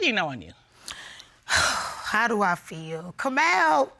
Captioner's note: sighs